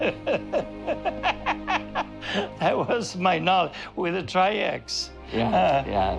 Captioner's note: laughing